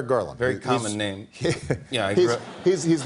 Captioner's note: chuckles